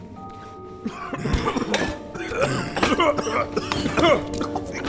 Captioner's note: group coughing